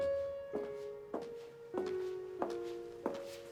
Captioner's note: none